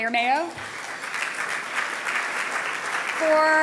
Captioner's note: audience applauding